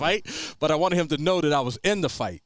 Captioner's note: chuckles